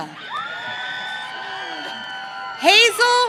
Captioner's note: audience cheering